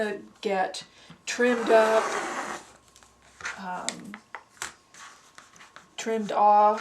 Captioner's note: sound of cutting